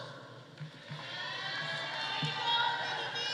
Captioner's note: audience cheering